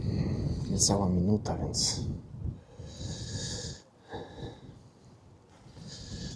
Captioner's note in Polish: parsknięcie